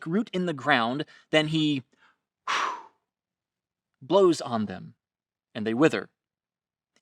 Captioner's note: blowing air